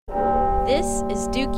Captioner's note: graphic ringing